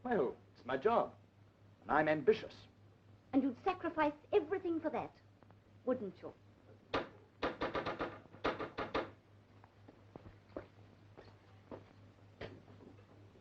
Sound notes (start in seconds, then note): 7.4 door knocking